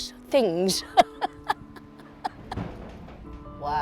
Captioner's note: laughs